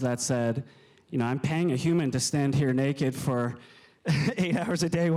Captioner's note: laughs